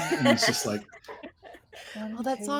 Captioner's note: all laughing